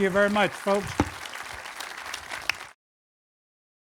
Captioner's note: clapping